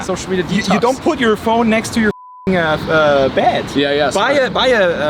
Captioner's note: beep